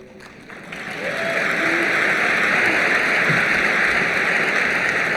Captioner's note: applause